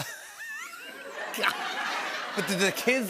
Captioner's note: laughter